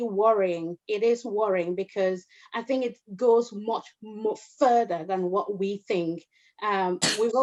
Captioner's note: coughs